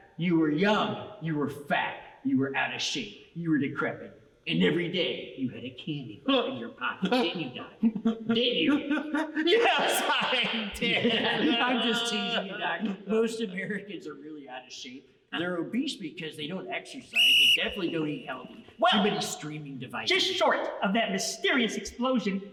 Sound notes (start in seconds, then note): 17.1 whistle blows